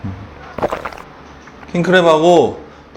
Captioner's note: gulp😋